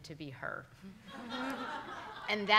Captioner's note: audience laughing